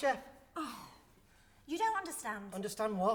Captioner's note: she scoffs